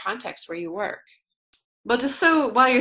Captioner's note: pause